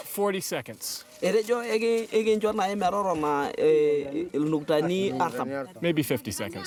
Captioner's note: speaking in native language